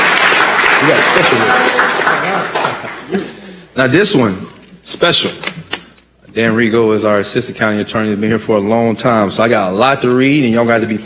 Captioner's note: applause